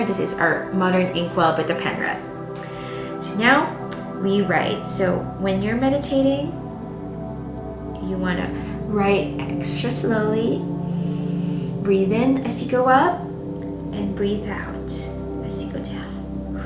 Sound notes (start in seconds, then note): 10.8 inhaling; 16.4 exhaling